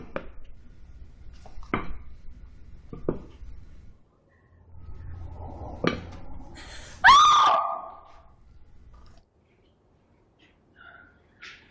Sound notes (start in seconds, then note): 6.9 screams